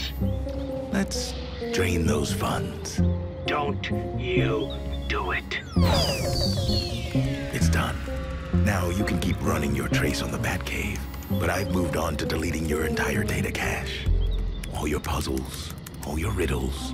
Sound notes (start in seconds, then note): 4.0 descending tones